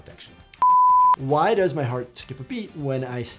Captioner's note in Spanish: pitidos de transmisión